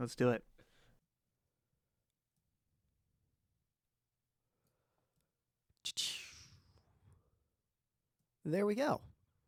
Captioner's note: silence